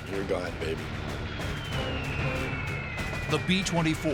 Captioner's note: bombs whistling